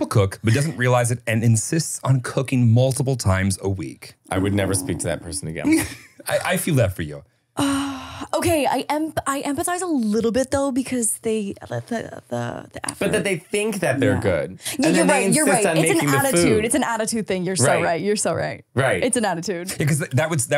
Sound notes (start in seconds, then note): 11.2 laughing